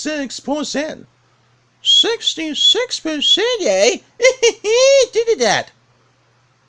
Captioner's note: laughs